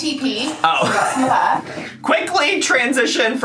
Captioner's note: laughs